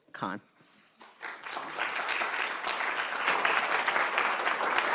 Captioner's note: applauding